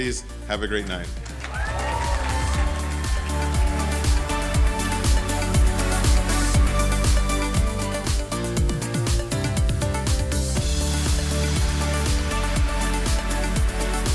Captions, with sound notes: Have a great night. (audience cheering and applauding) (upbeat cheerful music continues)